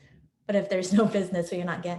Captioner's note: laughs